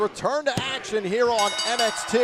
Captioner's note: bell